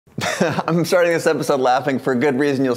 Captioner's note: laughing